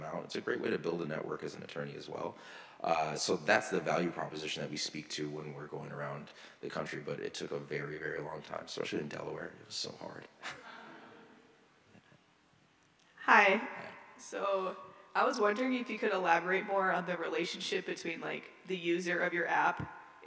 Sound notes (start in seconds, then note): 10.5 audience laughs